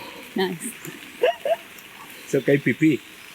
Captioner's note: laughter